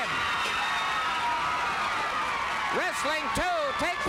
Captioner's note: crowd cheering